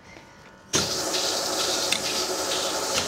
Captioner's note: loud whirring